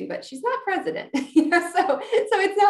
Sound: giggles

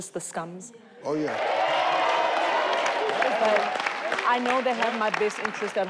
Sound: audience cheer

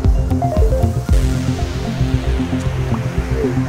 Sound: phone dinging

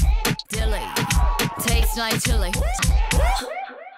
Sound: gulps

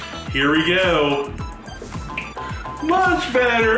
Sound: snaps

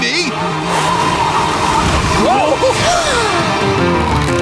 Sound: gasping

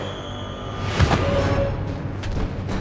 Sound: thump

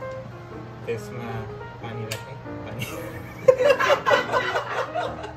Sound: laughs

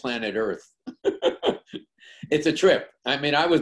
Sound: laughs

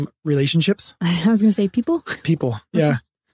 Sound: laughs

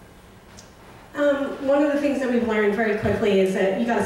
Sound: voiceover

